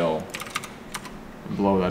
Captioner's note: keyboard clicks